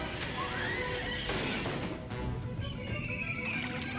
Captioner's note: screeches